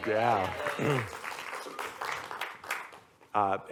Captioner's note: applause